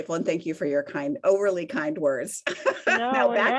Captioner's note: laughs